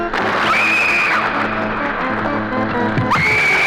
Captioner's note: screaming